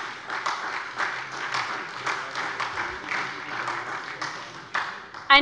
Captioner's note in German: Beifall bei der SPD